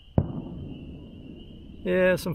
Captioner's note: fireworks